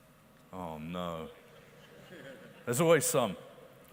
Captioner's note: audience members laugh